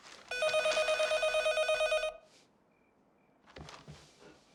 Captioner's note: phone ringing